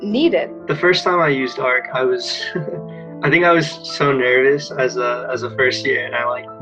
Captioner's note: chuckles